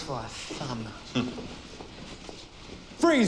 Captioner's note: snorts